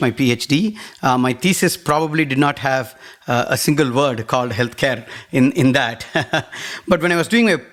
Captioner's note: laugh